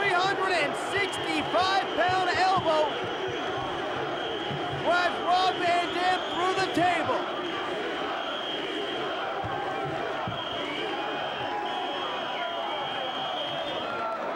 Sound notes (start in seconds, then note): 7.9 crowd chanting; 7.9 whistle blowing